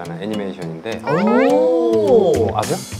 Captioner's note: exclaiming